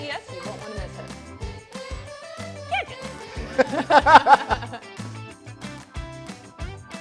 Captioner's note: both laughing